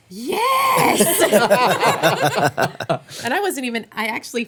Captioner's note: everyone laughing